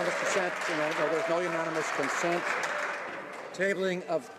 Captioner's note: some Applause